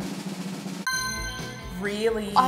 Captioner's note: drum roll; dings